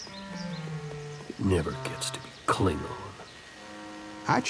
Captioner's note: mutters disappointedly